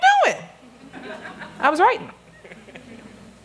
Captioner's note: laughter